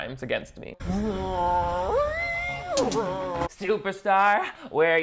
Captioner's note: imitating rock music